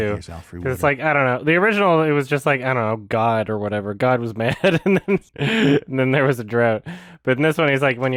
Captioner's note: laughs